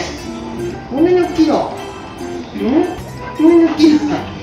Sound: laughs

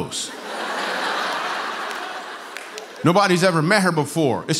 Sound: laughter

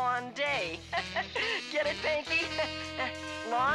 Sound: laughs

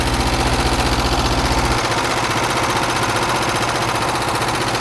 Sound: engine running

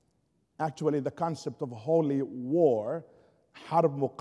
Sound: foreign language spoken

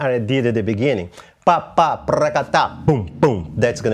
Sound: vocalizes rhythm

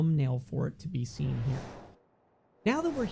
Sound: whooshing

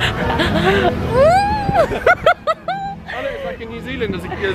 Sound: squeals and laughs

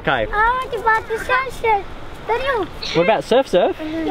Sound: children chattering

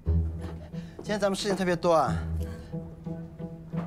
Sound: in Tibetan

